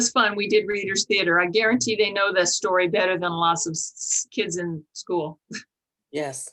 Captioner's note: chuckle